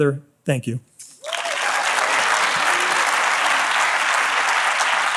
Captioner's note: audience applauds